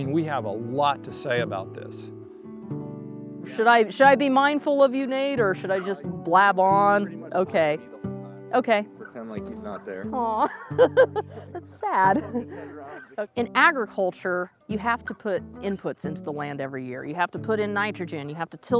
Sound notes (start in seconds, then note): 13.2 laughter